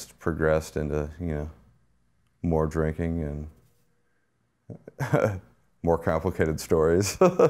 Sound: laughs

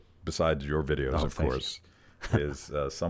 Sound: laughs

